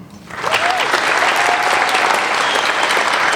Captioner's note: applauding